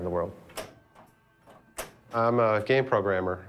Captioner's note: quiet room, flippers clicking